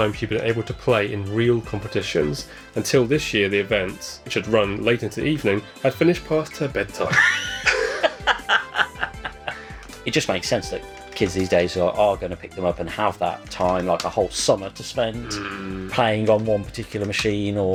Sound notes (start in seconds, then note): 7.0 men laughing at a little girl going to bed